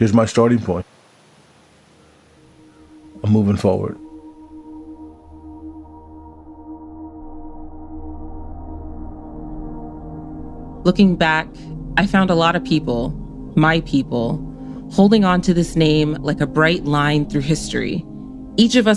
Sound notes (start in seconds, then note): none